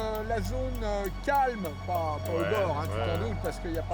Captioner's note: man speaking French